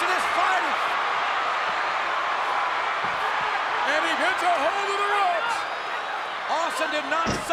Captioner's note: applause